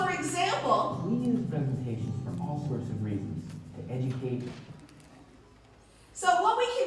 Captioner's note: background Conversation